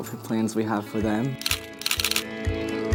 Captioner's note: camera shutter